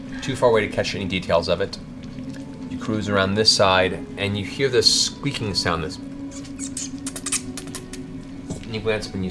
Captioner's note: squeaks